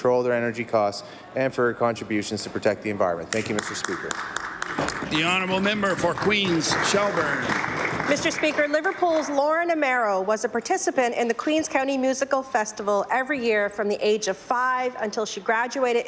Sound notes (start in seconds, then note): 10.4 applause